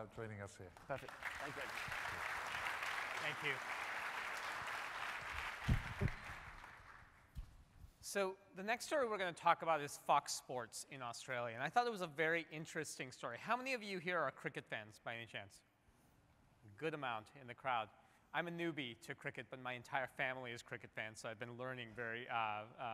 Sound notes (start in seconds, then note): 7.4 applause